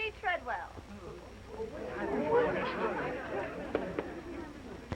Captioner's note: all chattering